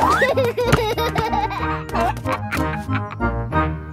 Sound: giggles

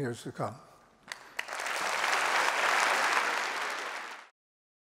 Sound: applause

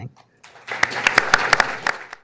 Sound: audience clapping

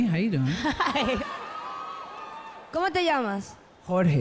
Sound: laughs; speaks in Spanish

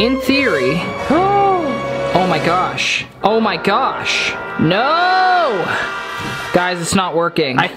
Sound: gasps

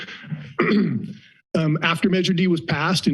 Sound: clears throat

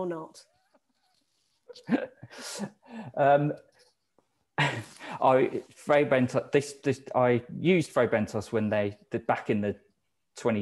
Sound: laughing

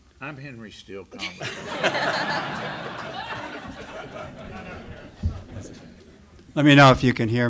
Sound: laughter

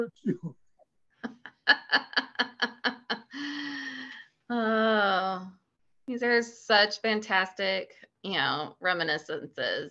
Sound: laughing

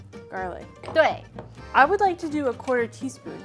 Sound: speaking in mandarin

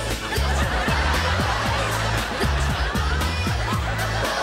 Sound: audience laughing; loud dance music

